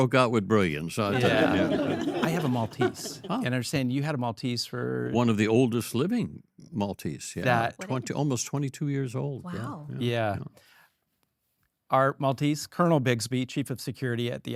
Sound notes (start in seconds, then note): 1.1 all laugh